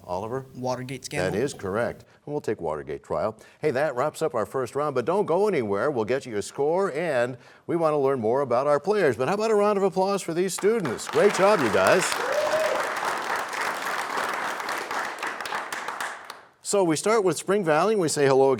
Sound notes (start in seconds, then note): 12.9 cheers and applause